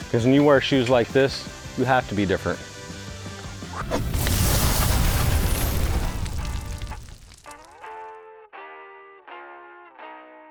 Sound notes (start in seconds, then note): 4.7 fire crackles; 7.4 rock music ends